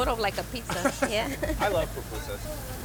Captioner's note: laughs